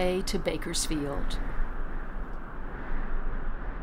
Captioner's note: sound of wind